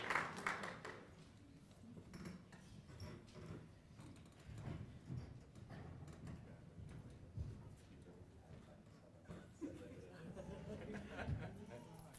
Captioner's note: applause